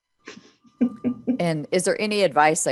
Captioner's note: laughs